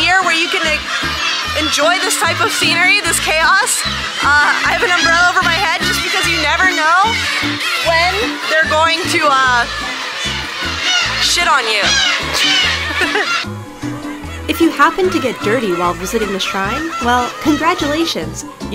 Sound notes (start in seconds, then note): 11.6 laughs; 12.4 uminekos cawing